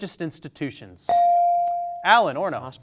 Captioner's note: bell sounding